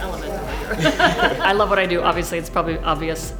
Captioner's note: laugh